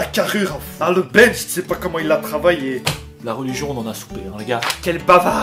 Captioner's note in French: paf